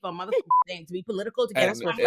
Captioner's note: beep